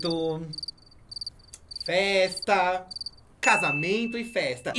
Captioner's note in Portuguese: grilos cricrilando